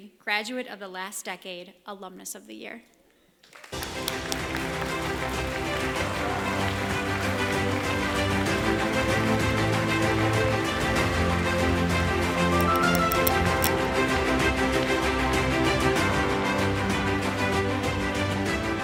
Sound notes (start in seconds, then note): 3.4 applause, Music